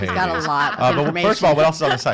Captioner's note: laughing